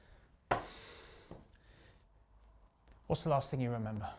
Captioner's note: hand thuds